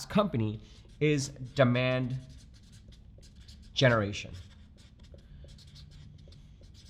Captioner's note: marker brushing